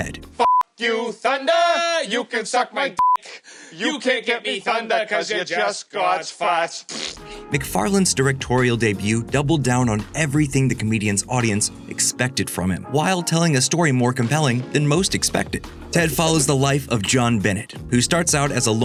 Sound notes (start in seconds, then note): 0.1 singing; 6.8 blowing raspberry